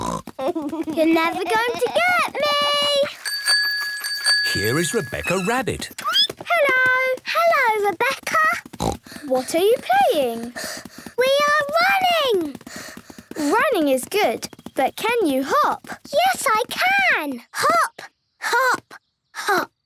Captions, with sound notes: You're never gonna to get me! (bike bell) - Here is Rebecca Rabbit. - Hello! - Hello, Rebecca! (snort) - What are you playing? - We are running! - Running is good, but can you hop? - Yes, I can! Hop, hop, hop!